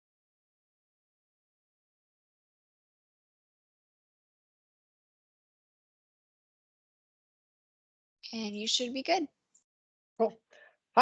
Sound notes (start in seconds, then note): 3.0 silence